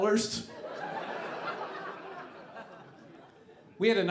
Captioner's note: audience laughing